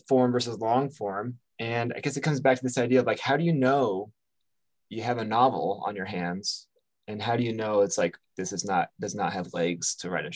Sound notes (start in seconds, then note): none